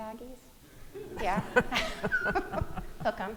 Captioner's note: audience laughing